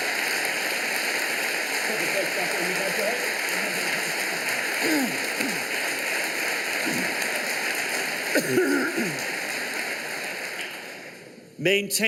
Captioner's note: applause